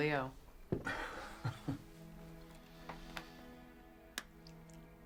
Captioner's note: Chuck chuckles